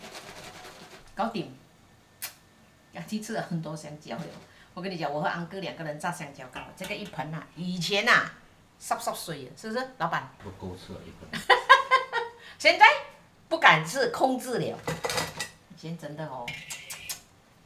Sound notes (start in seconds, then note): 1.1 Cantonese; 8.9 Cantonese